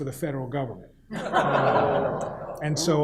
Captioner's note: audience laughs